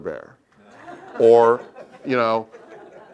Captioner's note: laugh